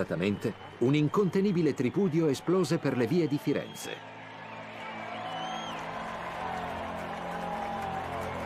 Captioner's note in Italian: Applauso